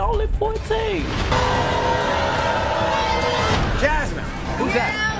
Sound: audience booing

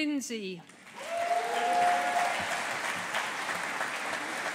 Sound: audience applauding

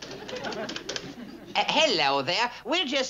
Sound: in English accent

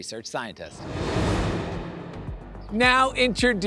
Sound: air whooshing

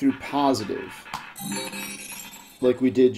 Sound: ball rolling; successful chime

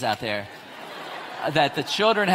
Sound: audience laughs

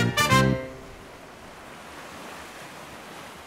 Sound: waves crashing

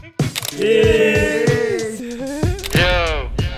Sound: camera click

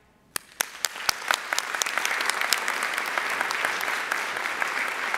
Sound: audience applauding

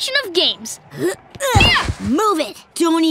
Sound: groaning

